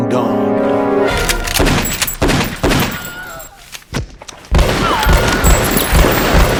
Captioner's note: guns firing; gun snapping